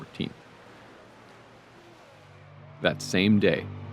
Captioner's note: small waves breaking